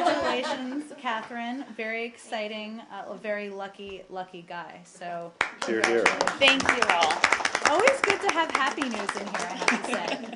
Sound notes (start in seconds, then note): 0.0 laughter; 5.4 applause